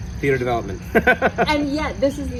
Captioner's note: laughs